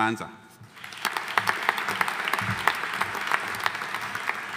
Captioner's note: audience applauding